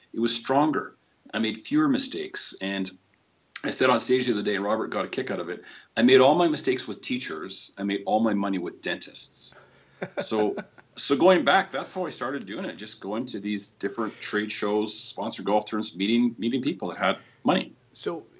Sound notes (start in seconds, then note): 10.0 laughter